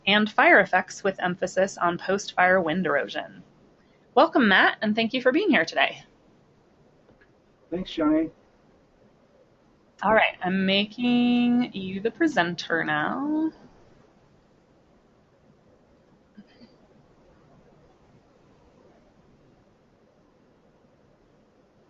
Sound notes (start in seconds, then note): 6.7 voiceover